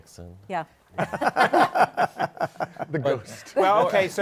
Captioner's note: laughter